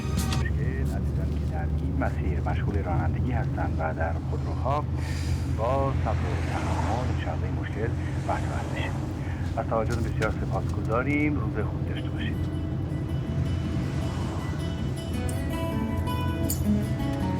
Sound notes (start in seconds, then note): 2.0 radio sound